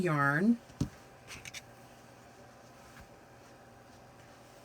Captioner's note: soft rustling